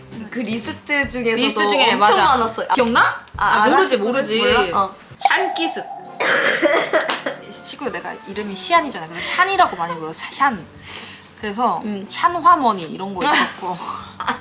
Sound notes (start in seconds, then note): 5.3 cough cough